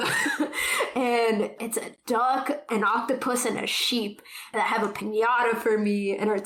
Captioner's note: laughs